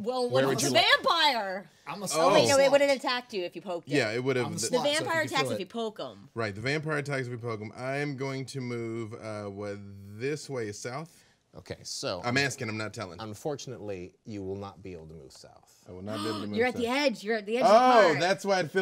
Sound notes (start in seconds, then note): 17.1 gasps